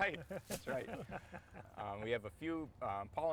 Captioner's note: all chuckling